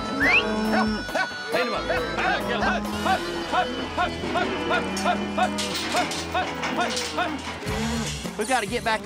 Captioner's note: calling cattle, whistling; pen gates clanging